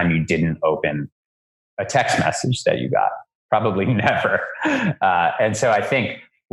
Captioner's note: laughs